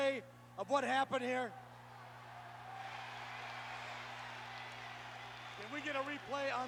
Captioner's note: applause